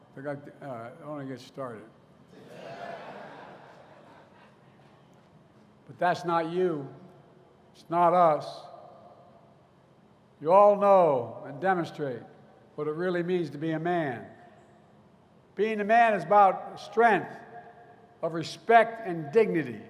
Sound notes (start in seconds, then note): 2.3 laughter